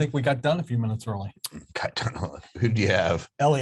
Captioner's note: laughs